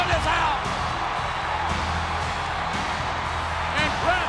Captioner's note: crowd cheering; upbeat rock music